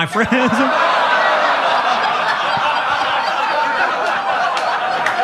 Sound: audience laughing

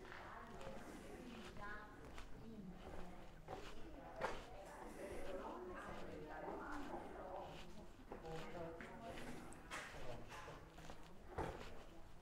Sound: background chatter

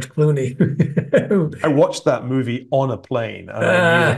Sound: laugh

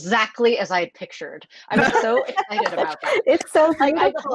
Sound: laughter

